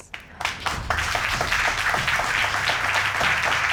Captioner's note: audience applauding